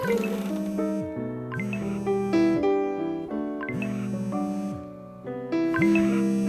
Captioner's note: phone vibrating